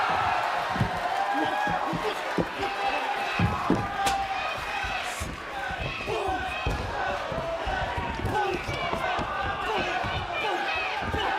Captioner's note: crowd cheering